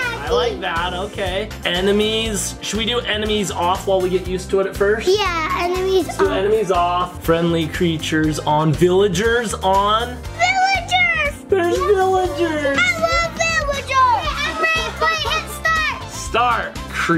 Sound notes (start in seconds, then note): 14.4 laughing